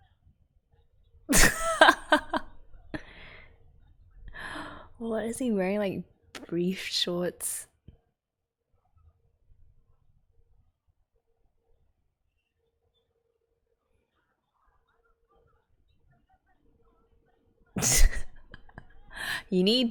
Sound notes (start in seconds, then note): 1.3 laughs; 17.8 laughs